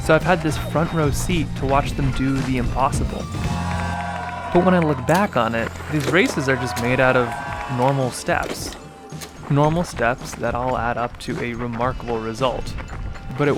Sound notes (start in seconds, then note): 3.4 people cheering